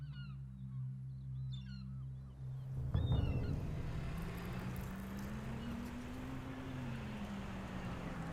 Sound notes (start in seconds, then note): 3.7 engine revving